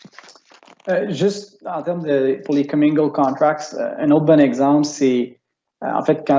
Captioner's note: speaking in foreign language